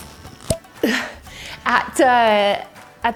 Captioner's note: bottle pops